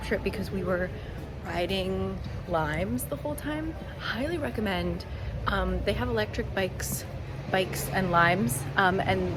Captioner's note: scooters